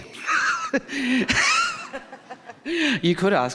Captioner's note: chuckling